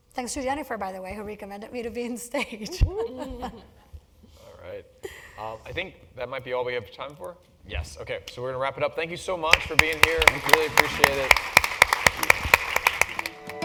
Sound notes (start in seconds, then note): 4.1 laugh; 11.4 applause